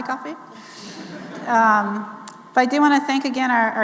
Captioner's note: audience laughing